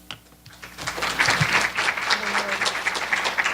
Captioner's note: applause